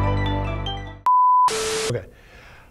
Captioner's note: beeping